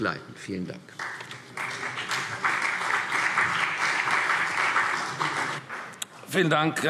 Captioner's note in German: Beifall CDU und BÜNDNIS 90/DIE GRÜNEN